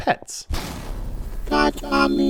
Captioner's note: crashing sound